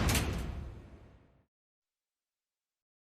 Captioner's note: prison door clanks